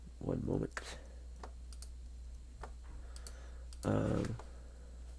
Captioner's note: clicking